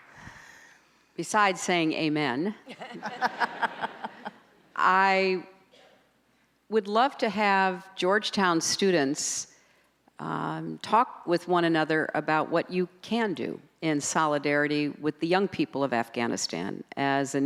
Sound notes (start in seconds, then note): 2.7 audience laughs